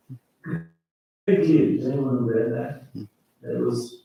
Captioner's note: mic static